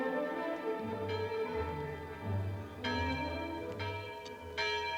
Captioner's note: bell ringing